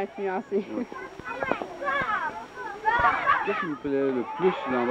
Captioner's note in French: cris d'enfants qui jouent